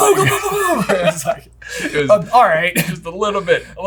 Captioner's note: laughing